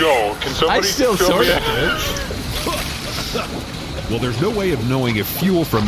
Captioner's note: laughing